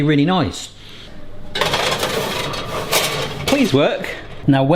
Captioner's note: tray clanks